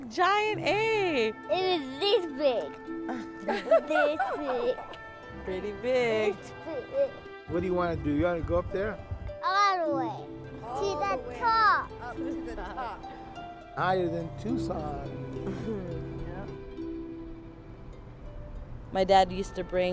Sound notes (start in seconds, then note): 3.1 laughter; 12.0 laughs; 18.1 chuckles